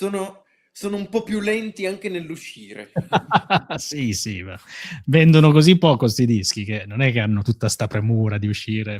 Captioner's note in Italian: risate